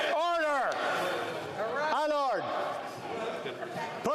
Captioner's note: some Applause